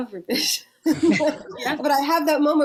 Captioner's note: laughs